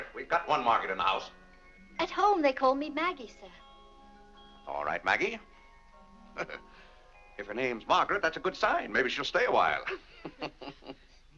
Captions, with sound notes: we've got one Margaret in the house. - At home they call me Maggie, sir. - All right Maggie. (chuckles) If her name's Margaret, that's a good sign! Maybe she'll stay a while. (laughs)